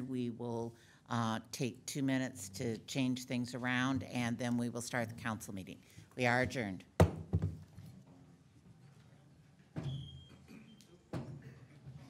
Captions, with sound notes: We will take two minutes to change things around and then we will start the Council meeting. We are adjourned. (gavel bangs)